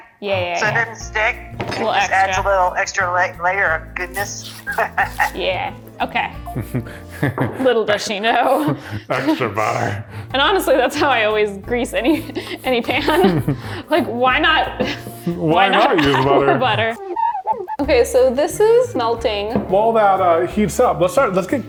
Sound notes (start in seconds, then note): 17.2 butter squeaks